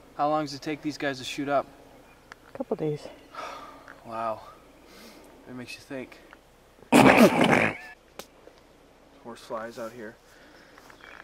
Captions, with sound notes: How long does it take these guys to shoot up? - A couple days. Wow. That makes you think. (Both snort) Horse flies out here.